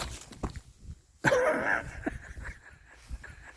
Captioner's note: laughs